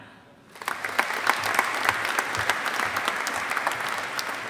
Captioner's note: audience applauding